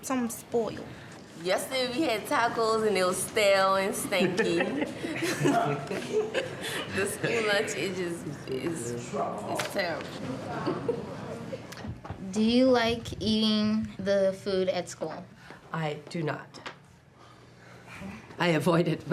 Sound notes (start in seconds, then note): 4.0 laughs